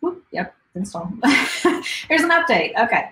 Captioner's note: chuckles